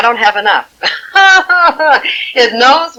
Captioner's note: laughing